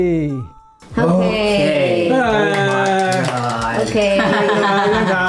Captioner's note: laugh